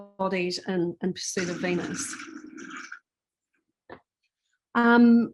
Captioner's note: water whooshing